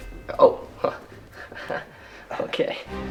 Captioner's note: chuckling